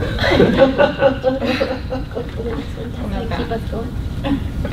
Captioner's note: laughter